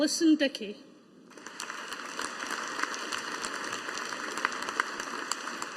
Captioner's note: audience applauding